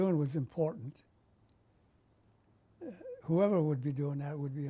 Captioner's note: pauses for 3 seconds